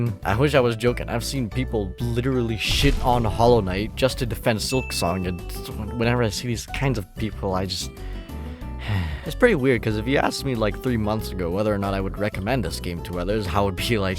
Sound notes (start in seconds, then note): 8.6 sighs